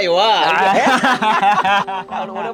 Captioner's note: both laughing